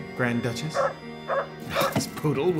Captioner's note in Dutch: hond blaft